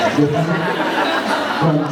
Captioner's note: laughs